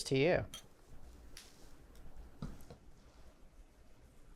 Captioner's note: glasses clinking